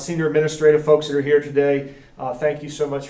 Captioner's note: none